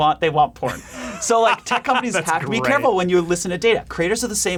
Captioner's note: laughing